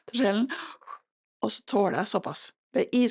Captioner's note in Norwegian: puster ut